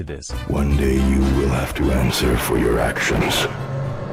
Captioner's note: manly voice